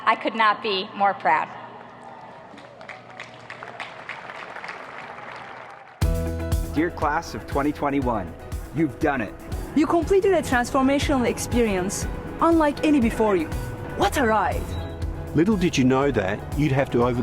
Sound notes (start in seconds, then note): 2.1 applauding; 5.9 upbeat music